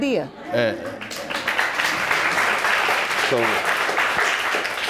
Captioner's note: audience applauds